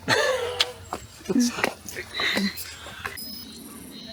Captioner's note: laughter